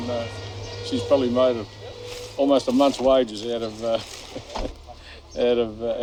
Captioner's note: laugh